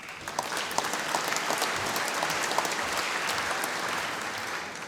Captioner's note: applause